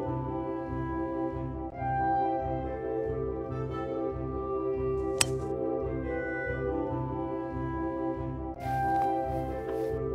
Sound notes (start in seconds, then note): 5.1 club clinking off golf ball